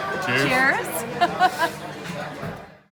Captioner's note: laughter